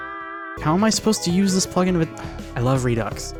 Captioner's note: sigh